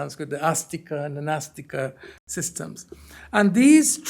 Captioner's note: hindi